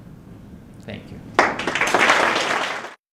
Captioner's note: applause